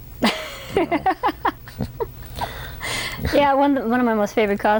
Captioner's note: laughter